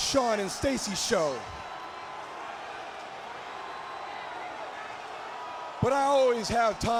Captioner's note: crowd cheering